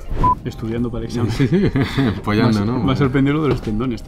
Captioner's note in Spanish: Ríe